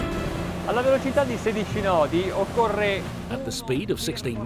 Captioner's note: speaking foreign language